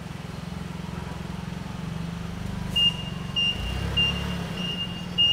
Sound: motor humming, beeping

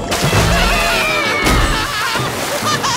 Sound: screaming

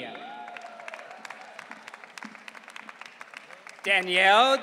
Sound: audience cheering

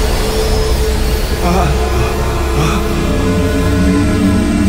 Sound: gasping, panting

